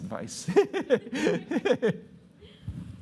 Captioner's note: laughter